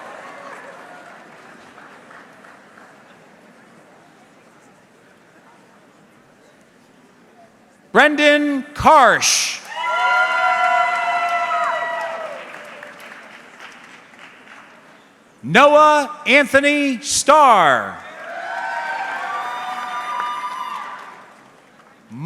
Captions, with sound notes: (audience clapping) Brendan Karsch. (audience cheering) Noah Anthony Star. (audience cheering)